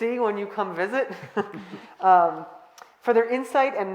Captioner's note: all laughing